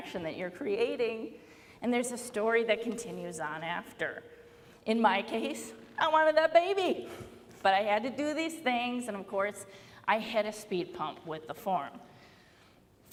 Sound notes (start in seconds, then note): none